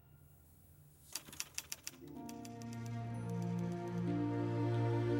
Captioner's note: typewriter keys clicking